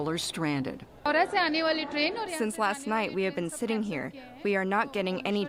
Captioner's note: through translator